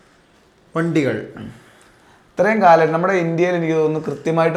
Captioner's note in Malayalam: തൊണ്ട ശരിയാക്കുന്നു